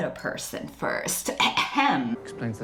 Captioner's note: fake cough